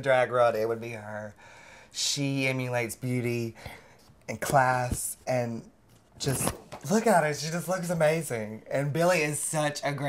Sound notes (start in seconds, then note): none